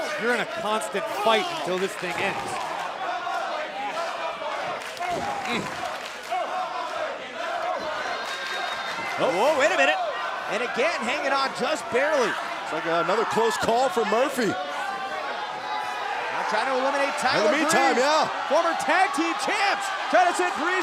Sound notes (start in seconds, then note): 4.7 fans chanting